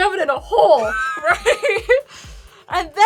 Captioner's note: laughing